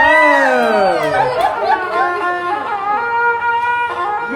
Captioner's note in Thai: ปรบมือ